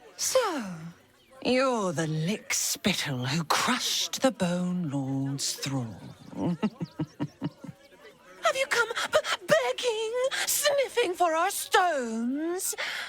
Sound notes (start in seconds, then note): 6.1 laughing